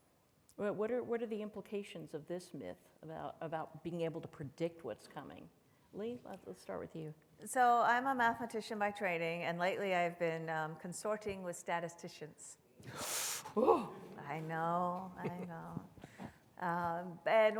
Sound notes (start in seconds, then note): 12.5 exclaims dramatically; 15.1 chuckles softly